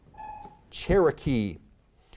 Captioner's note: timer buzzes